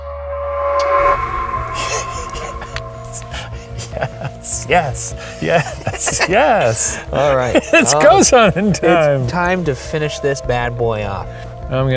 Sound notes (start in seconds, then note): 0.3 tense exciting music; 1.7 giggling